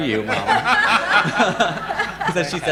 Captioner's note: all laughing